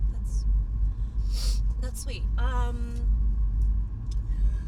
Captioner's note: sniffs